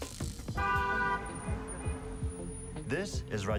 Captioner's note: horn honks